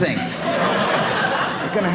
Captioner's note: audience laughing